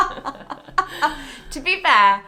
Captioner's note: laugh